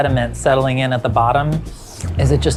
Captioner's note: slurps